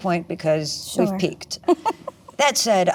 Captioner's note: laughs